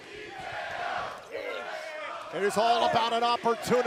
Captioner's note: fans chanting